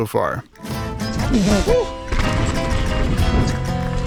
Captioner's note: grunting and cheering; bright music